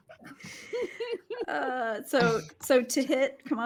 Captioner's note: laughing